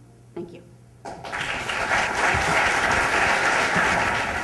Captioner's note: applause